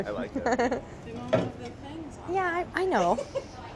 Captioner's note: laughs